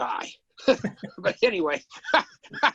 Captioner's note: laughs